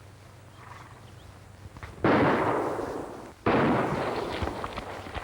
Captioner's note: gunshots